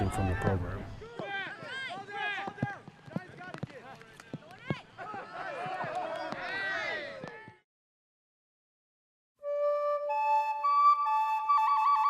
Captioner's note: indistinct chatter